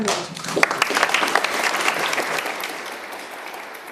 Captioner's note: applause